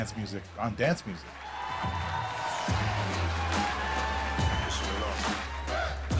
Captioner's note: crowd cheering and applauding